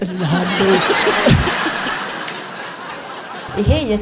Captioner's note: laughter